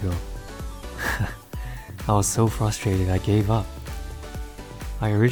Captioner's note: laughs